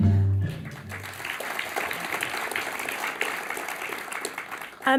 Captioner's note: applause